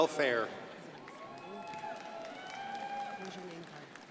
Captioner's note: crowd applauding